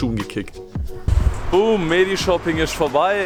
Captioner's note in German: Boom